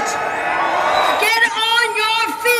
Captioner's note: applause